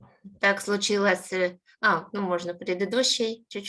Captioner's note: speaking Ukrainian